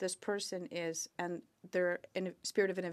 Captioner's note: speaking French